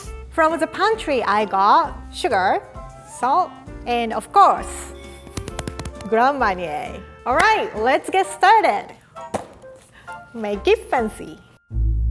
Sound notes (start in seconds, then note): 5.3 hands pounding